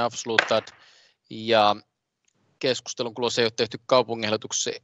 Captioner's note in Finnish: nuijan kopautus